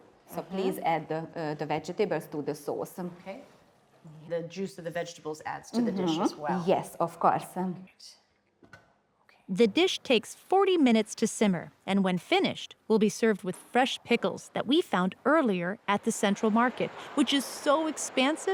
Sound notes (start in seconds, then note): none